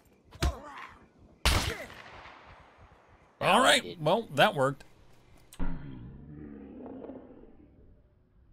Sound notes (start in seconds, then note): 1.4 gunshot